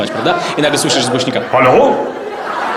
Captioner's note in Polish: głosem Boga